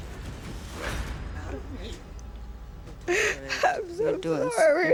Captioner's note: sobbing